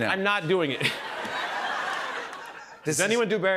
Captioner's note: laughter